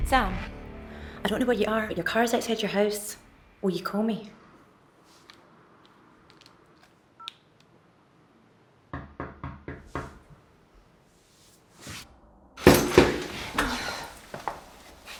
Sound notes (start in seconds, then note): 9.0 knocking